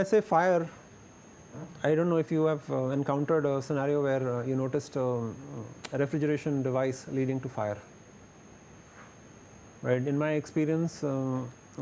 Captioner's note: window air conditioner